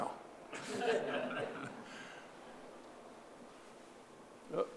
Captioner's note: audience laughing